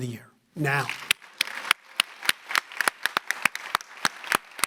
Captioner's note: audience applauding